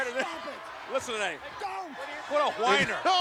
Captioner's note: laughs